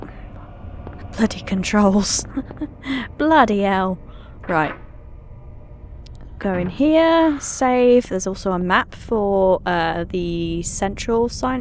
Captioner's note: laughing